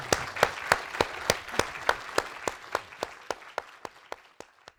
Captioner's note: applause